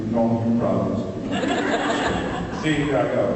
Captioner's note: laughs